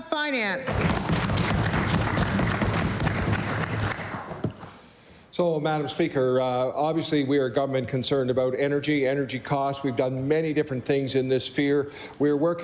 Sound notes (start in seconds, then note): 3.7 applause